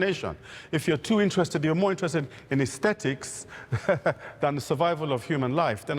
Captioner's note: chuckling